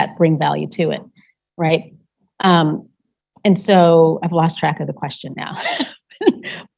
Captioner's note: laughing